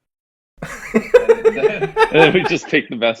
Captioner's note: laughs